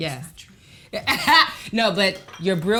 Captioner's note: Kellita laughs